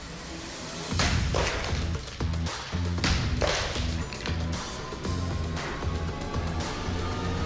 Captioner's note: pots shattering